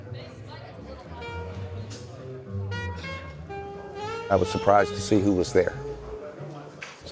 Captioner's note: background chatter